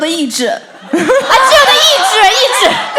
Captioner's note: rofl at her pronounciation